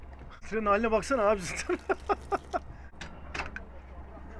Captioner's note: laughings